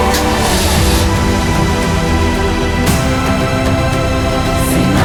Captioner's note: engine starting